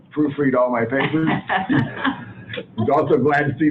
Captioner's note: chuckles